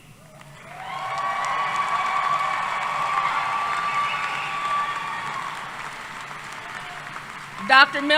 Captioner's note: applause